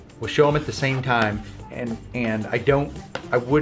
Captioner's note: writing on chalk board